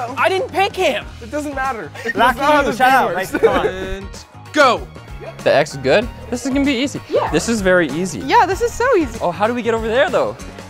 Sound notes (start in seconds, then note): 3.1 giggling